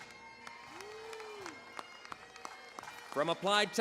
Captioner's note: cheering, applause